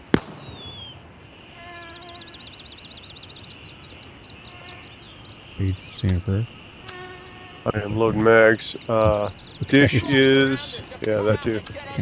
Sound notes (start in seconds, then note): 0.0 gunfire; 2.9 birds chirping